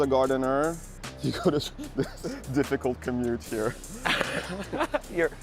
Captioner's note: laughs